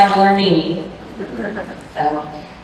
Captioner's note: laughter